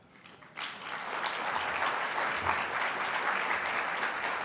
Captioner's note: applause